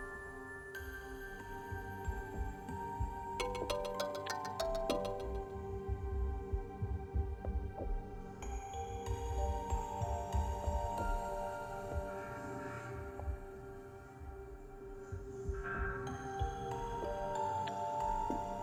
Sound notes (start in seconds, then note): 3.5 ring Ring